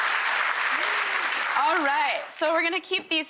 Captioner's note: crowd clapping; laughing